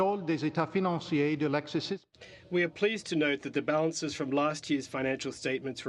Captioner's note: speaking French